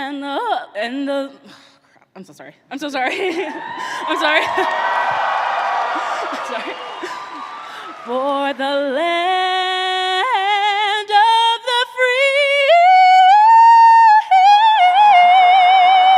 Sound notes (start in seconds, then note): 3.1 chuckles; 3.4 audience cheers